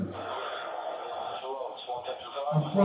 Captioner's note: radio chatter